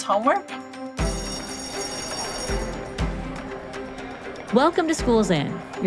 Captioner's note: lively music; bell ringing